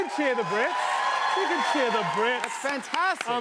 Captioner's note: cheers and applause